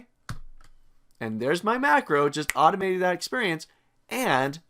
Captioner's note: snaps